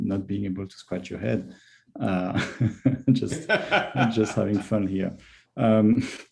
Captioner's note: laughs